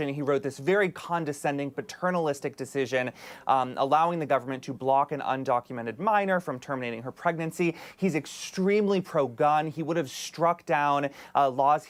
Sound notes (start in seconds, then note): none